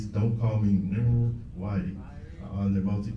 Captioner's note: none